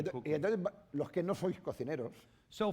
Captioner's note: speaking spanish